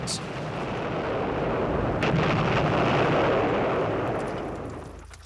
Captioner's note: bombs exploding